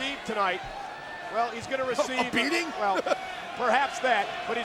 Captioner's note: laughs